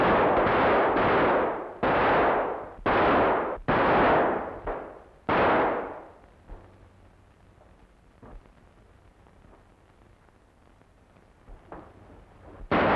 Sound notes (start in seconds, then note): none